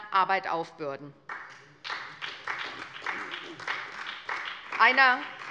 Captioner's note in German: Beifall bei der SPD